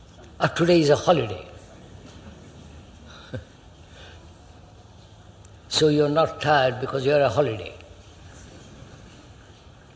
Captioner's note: laughs